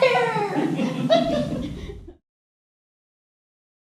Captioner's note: laughter